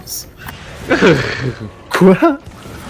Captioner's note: laugh without understanding